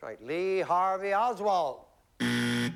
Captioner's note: buzzer